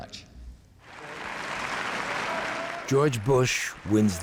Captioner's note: applause